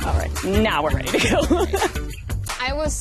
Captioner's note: laughs